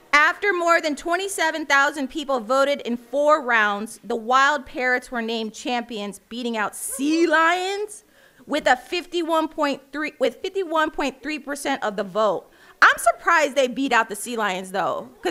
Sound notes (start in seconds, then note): none